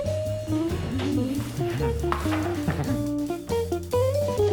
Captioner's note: giggles